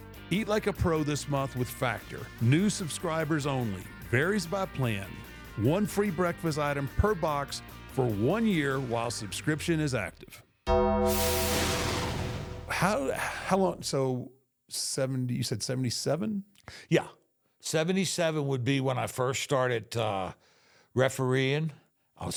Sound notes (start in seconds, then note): 10.8 logo whooshes; 10.9 bell clangs